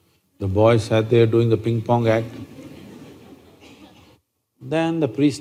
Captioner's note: few Laugh